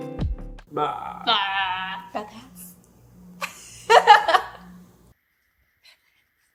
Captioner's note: laughs